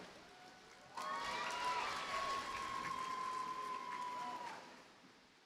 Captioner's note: audience cheers and applauds